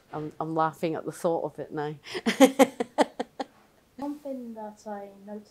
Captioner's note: laughter